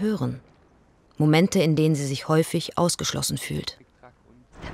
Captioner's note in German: none